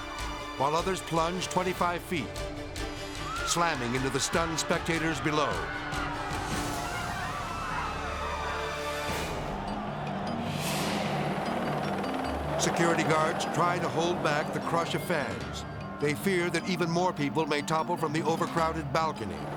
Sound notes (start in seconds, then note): 6.0 people screaming; 8.2 edgy dramatic music; 10.2 dramatic whoosh; 11.9 helicopter buzzing; 11.9 suspenseful music; 19.3 edgy dramatic music